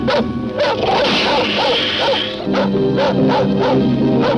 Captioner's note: dog barking; alligator hisses